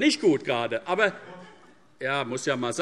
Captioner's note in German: Zuruf